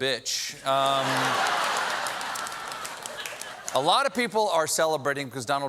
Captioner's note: laughter